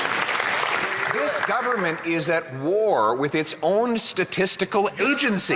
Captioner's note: some Applause